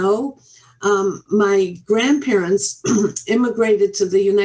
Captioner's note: clears throat